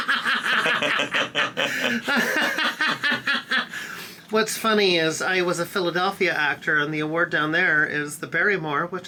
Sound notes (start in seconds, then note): 2.6 friends laughing